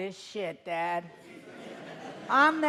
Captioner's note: audience laughing